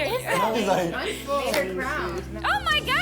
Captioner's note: overlapping chatter